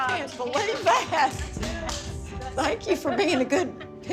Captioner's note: group clapping